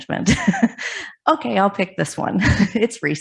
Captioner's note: laughs; chuckles